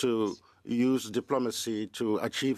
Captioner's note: speaking French